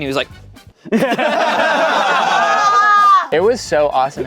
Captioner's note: everyone laughing